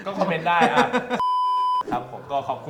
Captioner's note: laughing up till the end